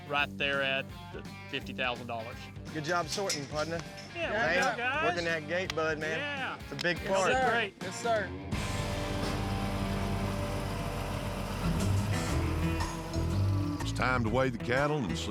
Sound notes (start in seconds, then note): 10.2 engine rumbling